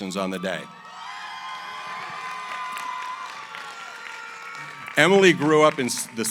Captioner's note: cheering, applause